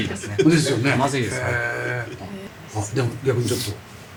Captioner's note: laughs